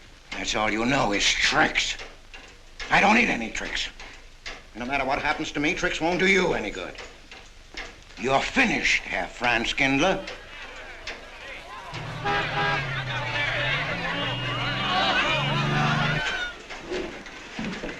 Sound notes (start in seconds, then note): 10.1 people clamoring; 12.2 horn honks